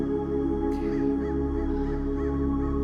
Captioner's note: breathes deeply